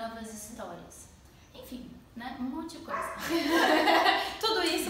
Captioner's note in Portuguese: risos